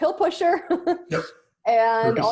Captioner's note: laughing